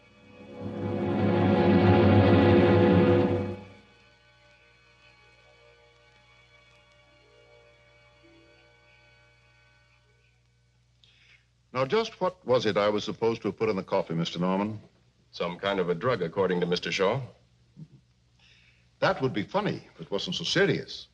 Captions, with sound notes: (dramatic music) (hazy orchestral music) Now just what was it I was supposed to have put in the coffee, Mr. Norman? Some kind of a drug, according to Mr. Shaw. (Gus chuckles) That would be funny, if it wasn't so serious.